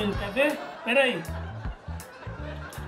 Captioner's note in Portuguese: Risadas ao fundo